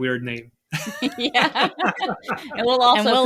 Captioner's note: all laughing